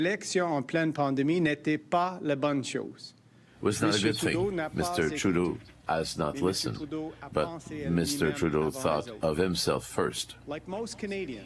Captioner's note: speaking French